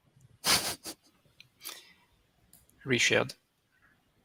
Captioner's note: laughs